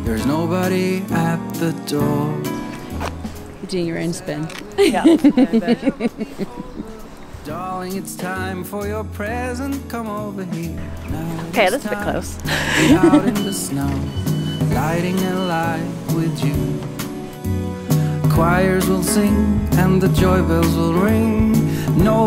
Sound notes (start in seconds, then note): 4.7 laughs; 11.4 laughs